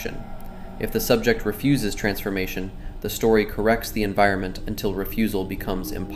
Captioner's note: thoughtful